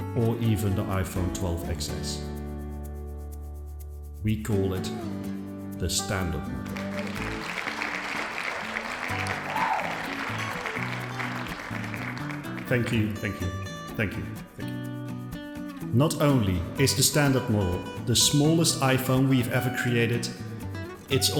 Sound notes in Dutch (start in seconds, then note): 6.6 applaus